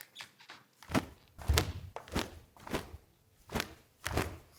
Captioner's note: snapping